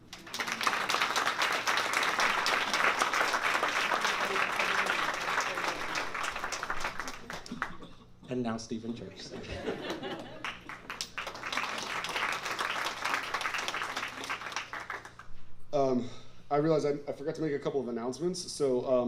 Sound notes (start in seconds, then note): 0.0 applause; 9.3 laughter and applause